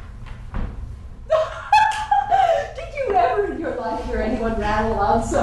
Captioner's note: laughing